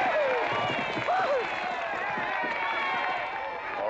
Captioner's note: hooves galloping